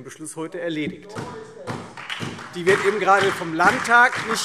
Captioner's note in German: Beifall Freie Demokraten, SPD und DIE LINKE